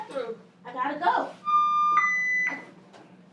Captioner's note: beeping noise